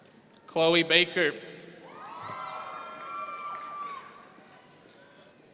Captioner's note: audience cheering